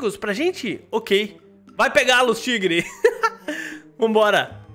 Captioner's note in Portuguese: risos